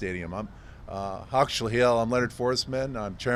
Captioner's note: Suquamish language spoken